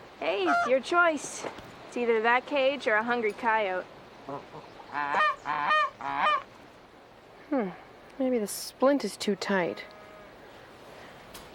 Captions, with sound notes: - Hey, it's your choice. It's either that cage or a hungry coyote. (goose quacks) - Hmm. Maybe the splint is too tight.